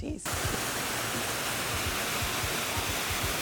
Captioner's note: static buzzes